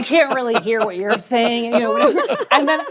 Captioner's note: laughter